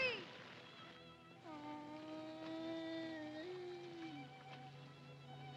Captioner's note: cubs whining; melancholy music